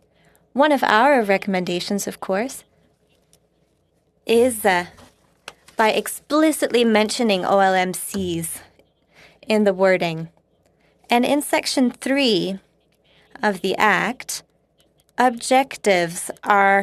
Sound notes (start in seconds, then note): 4.6 speaking French